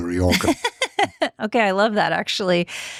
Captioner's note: laughing